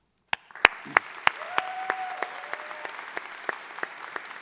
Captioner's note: graduates applauding